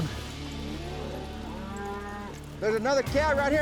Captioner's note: cattle mooing